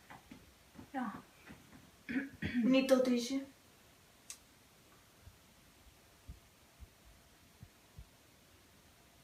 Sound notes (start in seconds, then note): 2.6 in a kinda french accent